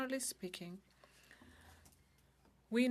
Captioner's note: speaking French